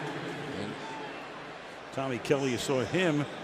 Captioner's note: pa announcement